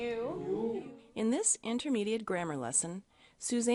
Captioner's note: voiceover